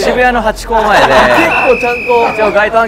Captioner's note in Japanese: ホイッスルの音